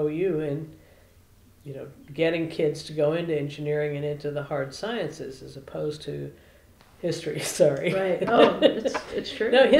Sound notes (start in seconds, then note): 7.9 laughter